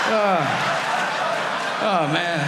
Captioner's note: audience laughing